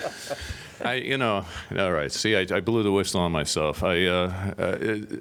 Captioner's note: laughter